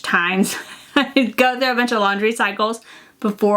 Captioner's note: chuckles